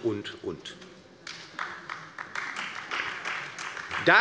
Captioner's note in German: Beifall bei der LINKEN und der SPD